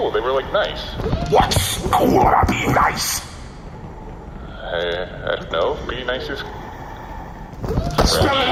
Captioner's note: harshly